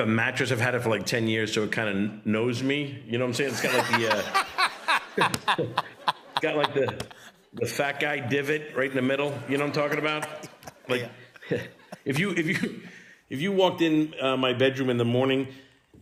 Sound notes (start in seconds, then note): 3.4 laughter